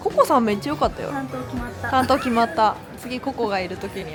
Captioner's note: laughs